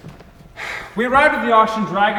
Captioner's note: sighs